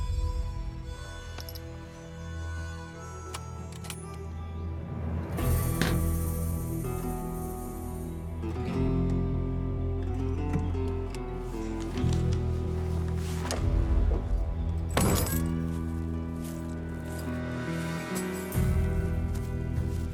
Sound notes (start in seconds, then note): 0.2 tense music; 14.9 trunk closes, keys jangle; 19.6 footsteps